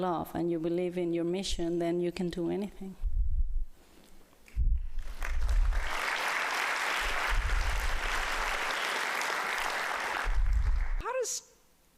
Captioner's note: applause